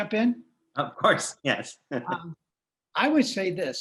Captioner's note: chuckles